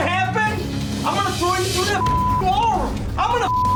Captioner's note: beep